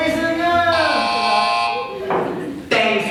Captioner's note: imaginary wrong-answer buzzer